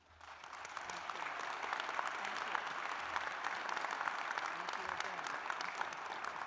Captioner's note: applause